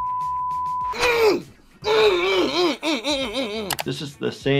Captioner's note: beeping; groaning